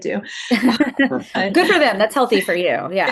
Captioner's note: all laughing